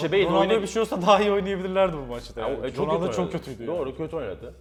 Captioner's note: laughs